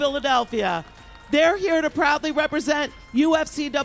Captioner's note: applause